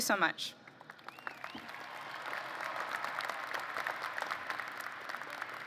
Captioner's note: applause